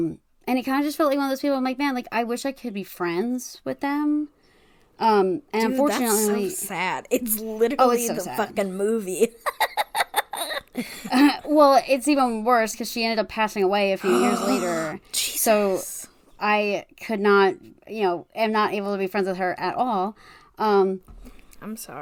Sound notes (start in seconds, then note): 7.7 laughs; 14.0 gasp